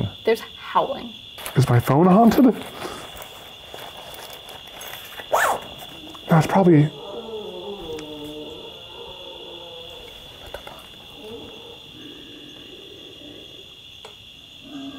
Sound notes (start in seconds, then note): 5.3 zip buzzing; 7.4 animal moaning; 12.3 pigs grunting; 14.7 crickets chirping